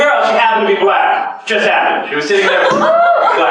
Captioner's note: laughter